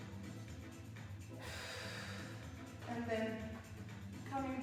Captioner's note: breathes